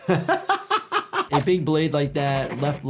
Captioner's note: laughs